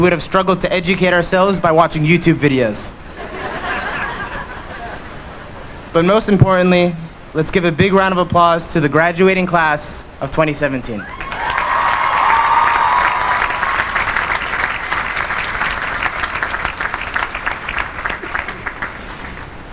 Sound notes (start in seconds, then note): 3.1 laughter; 11.0 cheering and applause